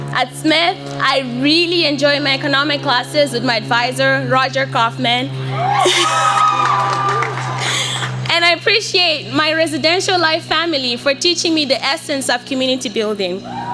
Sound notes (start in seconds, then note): 5.5 cheers and laughter